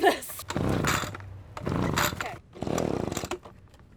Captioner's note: machine revving